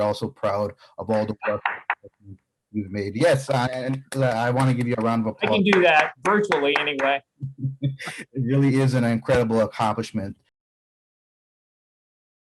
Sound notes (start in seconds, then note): 5.4 applause